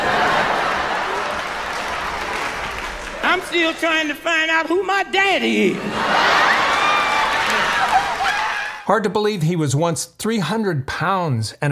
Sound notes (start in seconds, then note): 0.0 audience laughing and clapping; 6.2 audience cheering